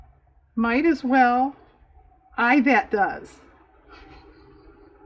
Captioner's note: laughs